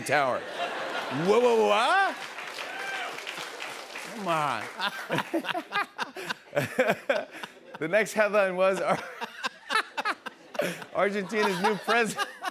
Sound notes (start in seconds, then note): 4.7 laughter; 8.7 laughs